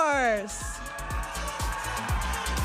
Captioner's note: audience applauding and cheering